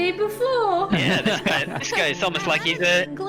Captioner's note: laughs